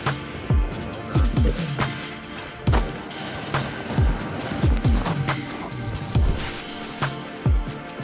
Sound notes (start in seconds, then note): 2.2 stones crunching